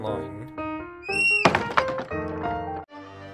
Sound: barn door close

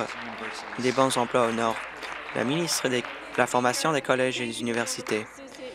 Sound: applause

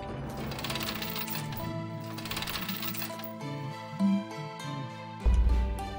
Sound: humming along

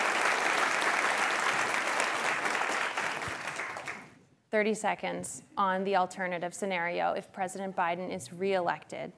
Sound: applause

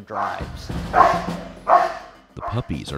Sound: dog barking

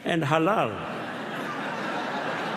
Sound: laughter

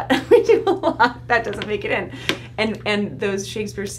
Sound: laughs

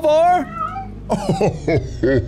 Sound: meows in Portuguese; Welcome laughs demonically

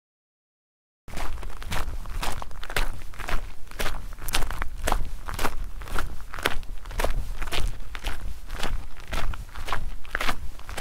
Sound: sound of walking

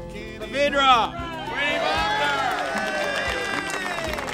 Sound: crowd cheers

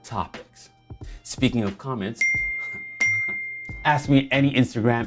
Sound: dinging

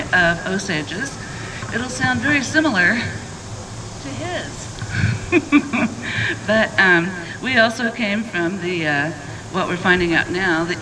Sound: laughs

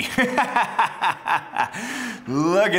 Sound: laughing

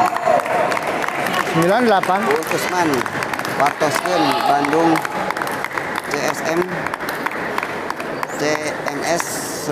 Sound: applause

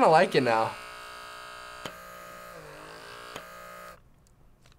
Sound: DermaSuction motor buzzing

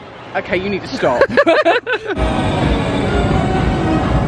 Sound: laughing; happy music

